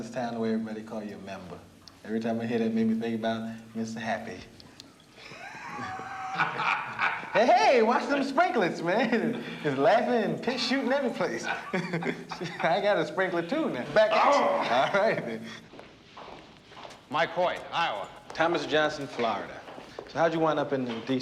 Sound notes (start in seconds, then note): 5.1 laughing